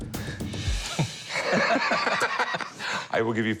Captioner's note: laughter